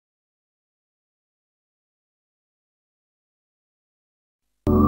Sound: silence; startup music playing

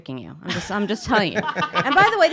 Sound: laughing

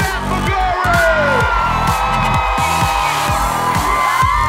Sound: audience cheering

